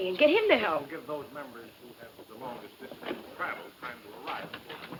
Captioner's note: person speaking off mic